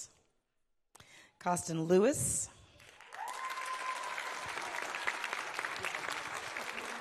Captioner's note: audience applauding